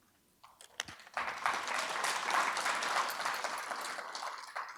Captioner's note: audience applauding